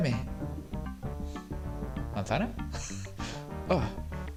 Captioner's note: laughs